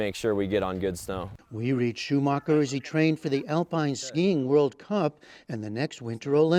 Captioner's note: voice-over